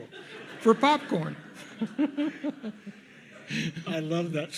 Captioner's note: audience laughs